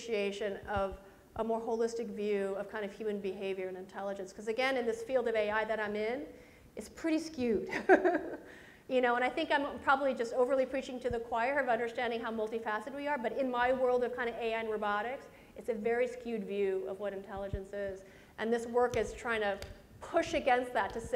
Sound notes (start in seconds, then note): 7.7 presenter laughs